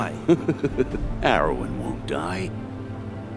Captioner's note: Kroden laughs